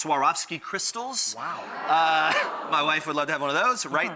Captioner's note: audience gasps